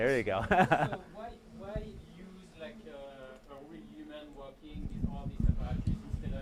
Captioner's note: chuckles